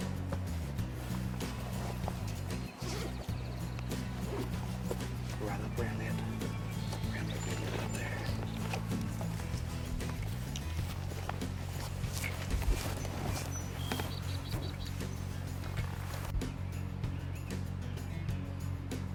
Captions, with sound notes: - Right up there around that, around that bend out there. (birds chirping)